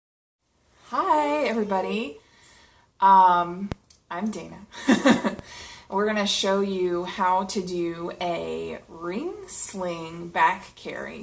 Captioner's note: laughs